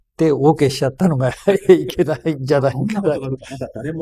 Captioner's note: laughs